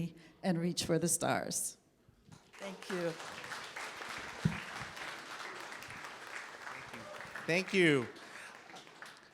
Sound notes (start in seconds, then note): 2.4 applause